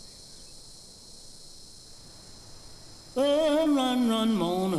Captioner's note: insects buzzing